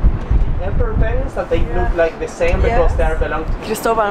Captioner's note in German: auf Englisch